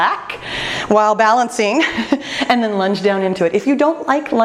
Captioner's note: laughs